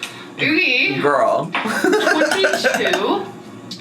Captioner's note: laughs